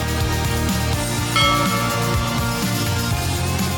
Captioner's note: bell